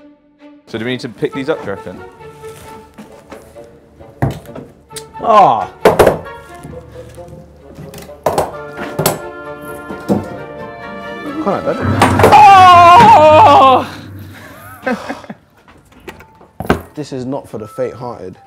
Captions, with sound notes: - So do we need to pick these up, do you reckon? - Oh. They're quite heavy. [screams] This is not for the faint-hearted.